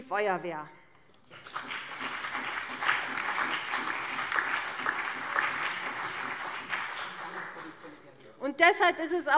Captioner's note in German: Beifall CDU, BÜNDNIS 90/DIE GRÜNEN, vereinzelt SPD und DIE LINKE